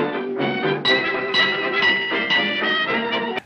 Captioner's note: bell dings